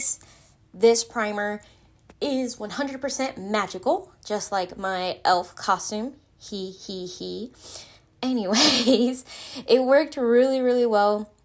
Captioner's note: sarcastic laughter